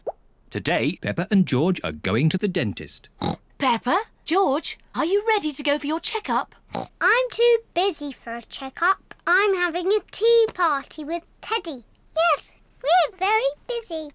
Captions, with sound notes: Today Peppa and George are going to the dentist. (OINKS) Peppa, George, are you ready to go for your check-up? (OINKS) I'm too busy for a check-up. I'm having a tea party with teddy. Yes, we're very busy.